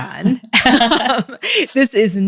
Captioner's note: both laughs